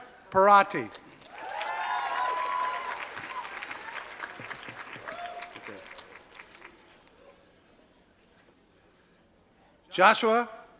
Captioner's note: applause